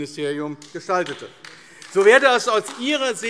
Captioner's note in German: Beifall AfD